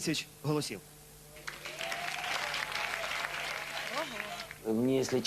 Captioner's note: applause